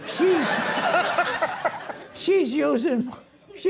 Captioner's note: audience laughing